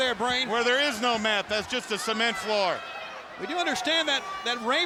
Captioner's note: crowd clamoring